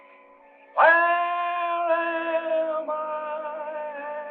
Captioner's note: howling continues